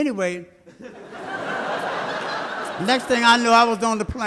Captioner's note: audience laughs